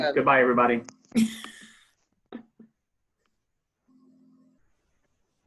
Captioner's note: audience member laughing